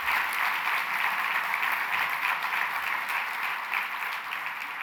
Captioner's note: applause